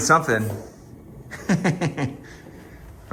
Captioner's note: laughing